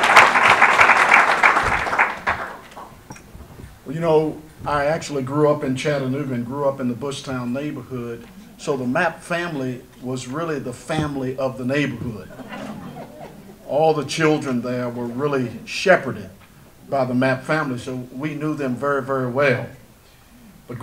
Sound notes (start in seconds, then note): 12.0 audience laughter